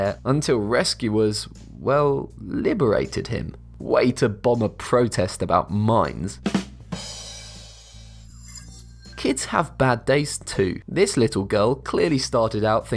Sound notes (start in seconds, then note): 6.4 drum roll; 8.2 futuristic ringing